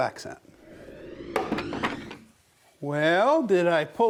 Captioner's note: wood clacking